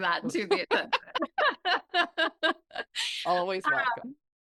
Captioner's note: both laughing